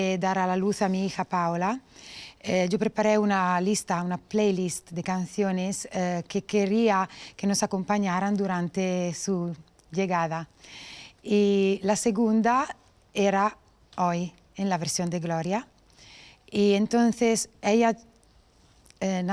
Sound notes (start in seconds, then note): none